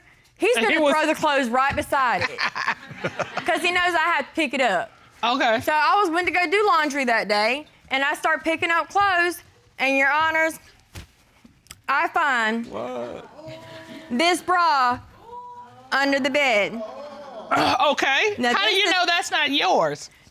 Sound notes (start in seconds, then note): 2.1 both chuckle